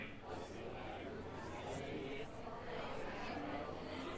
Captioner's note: audience chattering